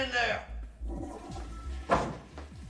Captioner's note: Descarga del inodoro